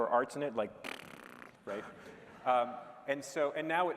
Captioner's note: blows rasberry